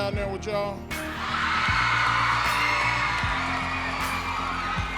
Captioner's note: students cheering